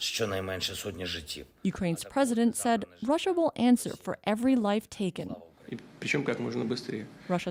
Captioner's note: speaking alternate language